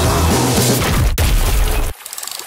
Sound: boom, smash!

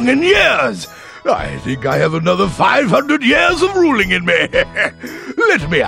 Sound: laughs

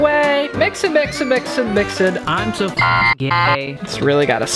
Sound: beeping

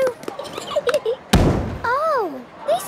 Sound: giggling, thudding

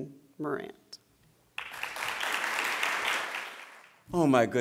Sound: applause

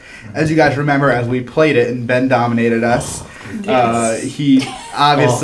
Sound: laugh

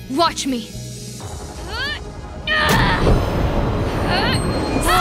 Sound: Morra grunting

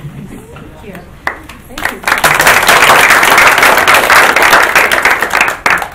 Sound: group applauding

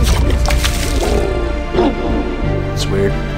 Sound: growl

